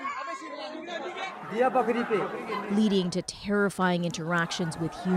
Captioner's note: screaming